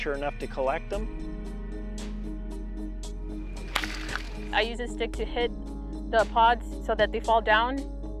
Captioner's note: thwacking sound